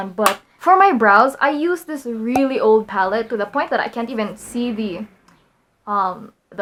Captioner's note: pop